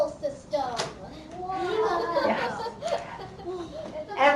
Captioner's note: laughter